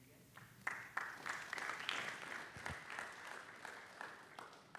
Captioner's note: applause